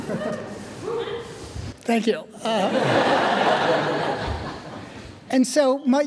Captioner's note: audience laughing; audience laughing